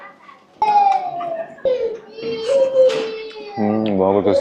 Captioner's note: child crying